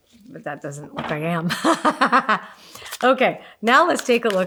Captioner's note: laughs